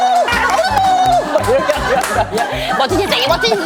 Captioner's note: hahahaha